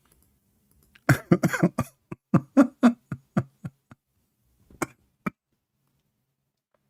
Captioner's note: Ketawa